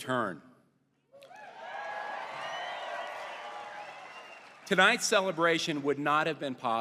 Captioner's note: applause